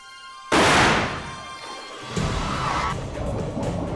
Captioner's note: starter's gun blasts